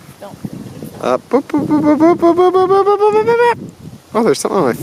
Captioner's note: mimics rising bell tones